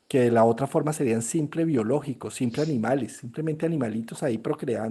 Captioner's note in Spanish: resoplido